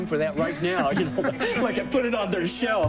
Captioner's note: laughter